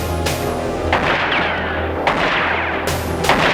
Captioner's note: gunshots